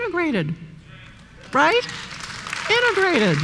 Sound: applause

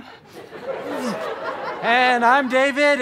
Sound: audience laughter

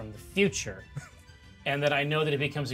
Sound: speaker chuckles

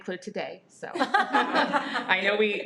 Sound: everyone laughs

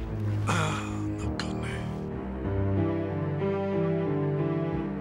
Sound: non-english speech

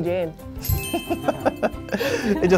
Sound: both laughing

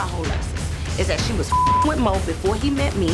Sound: beep sound

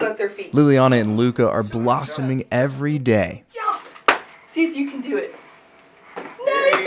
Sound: clap

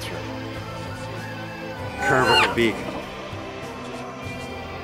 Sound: hen squawking

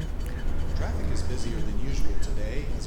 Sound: on radio: Traffic is busier than usual today

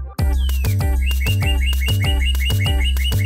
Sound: J$J Birds chirping

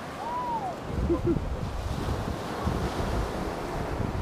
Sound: chuckles

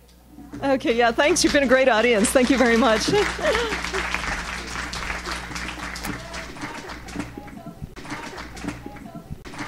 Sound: applause

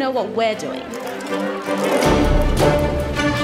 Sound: reporters Chatter

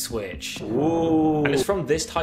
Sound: spookily

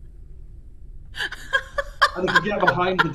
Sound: laughs

